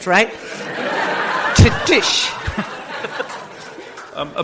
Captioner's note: audience laughs